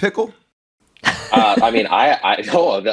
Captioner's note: laughs